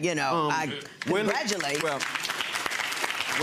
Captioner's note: audience applauding